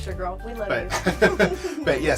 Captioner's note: both laugh